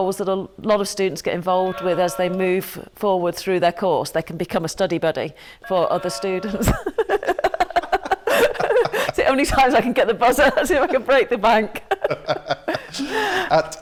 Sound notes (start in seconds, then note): 5.6 buzzer; 6.4 laughter